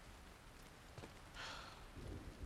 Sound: sigh

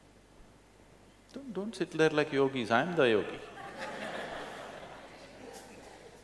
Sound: laughter

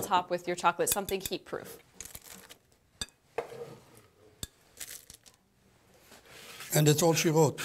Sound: crunching

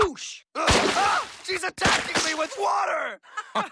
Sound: balloons splat; Dipper, Wendy and Soos laugh

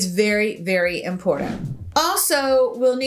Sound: air whooshes

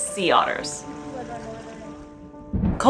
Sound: background music; background chatter; thunder sound

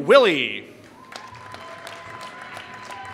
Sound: applause

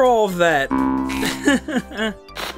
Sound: awkward laughing

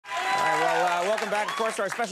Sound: audience cheering

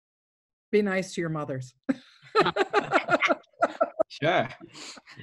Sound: laughs

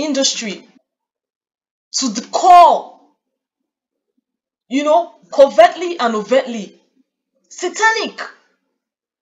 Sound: audio cut off

